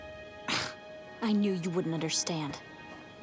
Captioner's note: she scoffs